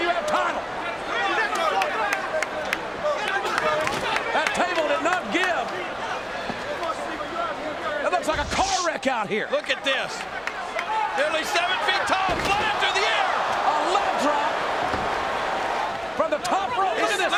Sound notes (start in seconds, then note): 1.2 fan clapping; 1.5 crowd chattering